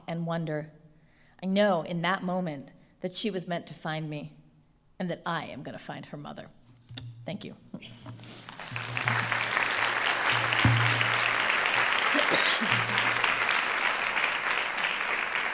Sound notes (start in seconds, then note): 8.4 applause